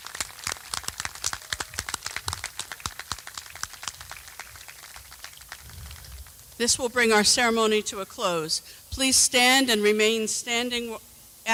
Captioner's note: cheers and applause